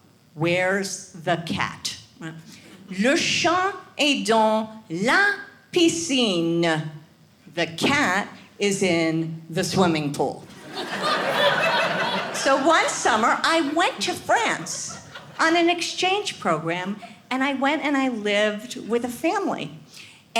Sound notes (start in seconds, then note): 0.0 speaks French; 2.9 speaks French